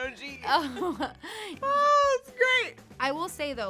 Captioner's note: both chuckling